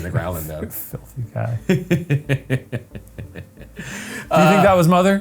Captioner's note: Ryan laughs